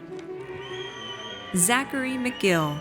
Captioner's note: audience cheers